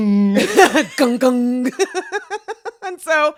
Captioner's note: laughs